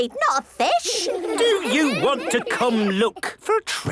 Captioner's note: children giggling